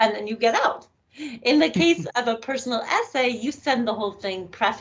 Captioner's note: chuckling